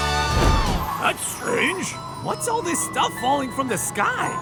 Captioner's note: none